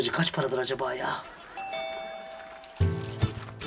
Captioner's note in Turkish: Kapı zili sesi